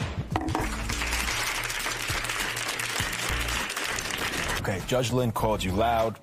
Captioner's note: applause